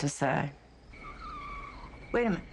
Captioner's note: tires squealing